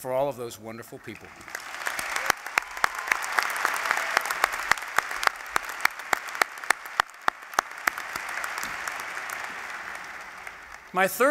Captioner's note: applause